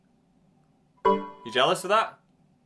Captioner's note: error tone dings